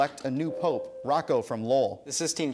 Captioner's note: ding